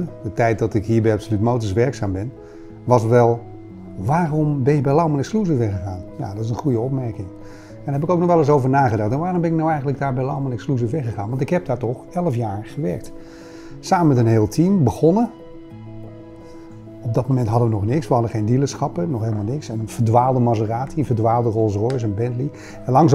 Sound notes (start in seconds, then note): none